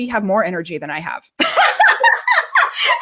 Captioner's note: laughing